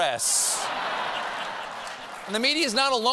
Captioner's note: laughter